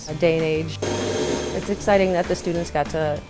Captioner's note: machine whirring